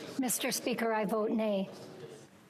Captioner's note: speaking FRENCH